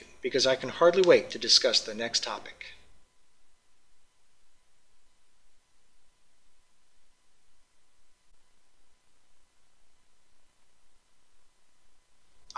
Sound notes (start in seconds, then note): 4.2 pause